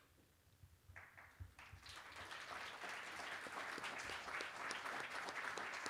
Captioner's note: applause